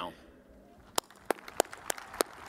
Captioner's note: applause